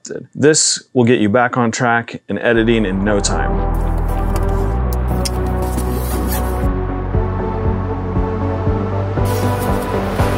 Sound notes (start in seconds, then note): 2.5 music builds; 3.7 camera noises; 4.9 zipper closes; 5.8 music builds; 9.3 bag rustles